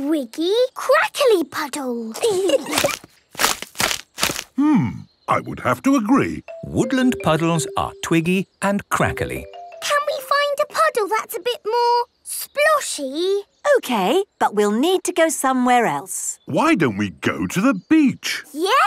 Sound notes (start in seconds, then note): 2.1 kids giggling; 3.2 crackling